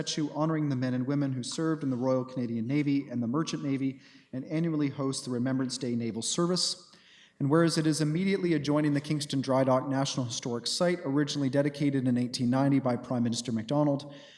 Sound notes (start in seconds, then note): none